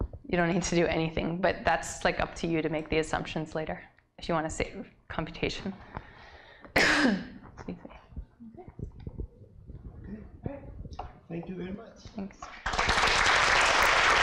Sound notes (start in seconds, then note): 12.4 applause